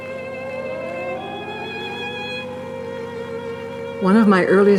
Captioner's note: air raid siren blaring